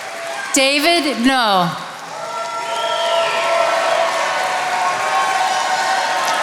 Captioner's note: attendees applauding; attendees applauding